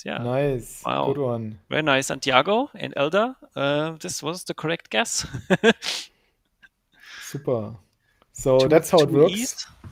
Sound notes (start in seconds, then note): 5.5 laughing